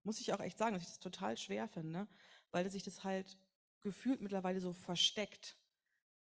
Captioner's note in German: none